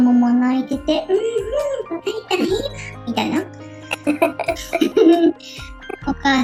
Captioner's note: laughs